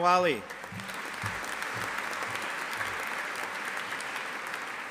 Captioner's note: audience applauding